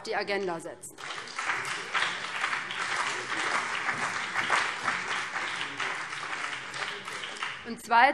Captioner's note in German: Beifall BÜNDNIS 90/DIE GRÜNEN und vereinzelt CDU